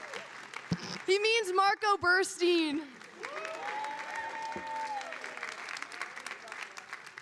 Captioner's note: audience applauding